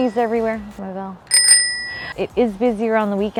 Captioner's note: bicycle bell dings